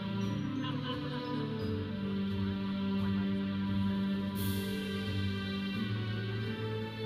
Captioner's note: audience chattering; processional music